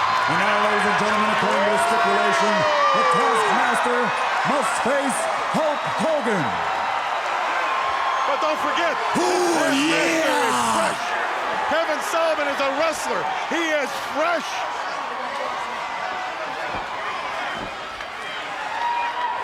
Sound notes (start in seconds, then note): 0.0 crowd cheering; 6.8 crowd screaming